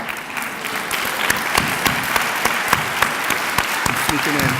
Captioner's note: clapping